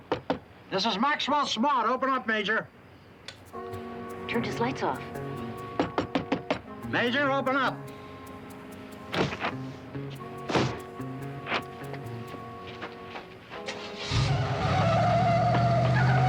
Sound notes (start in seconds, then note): 0.0 knocking; 3.2 clicking; 5.1 knocking; 8.6 tense music; 8.6 thuds; 14.0 engine rumbles